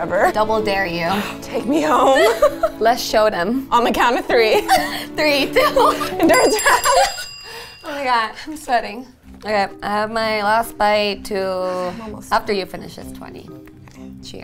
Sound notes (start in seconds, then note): 5.5 laughing; 6.2 bell ringing